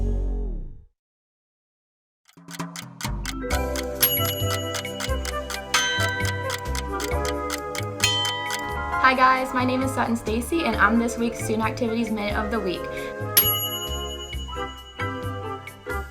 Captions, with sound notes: (timer ticking) (easy listening music) - Hi guys, my name is Sutton Stacey and I'm this week's Student Activities Mate of the Week. (timer dings)